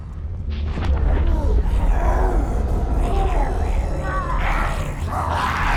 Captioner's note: zombies growling